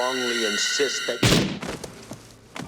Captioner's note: gunshot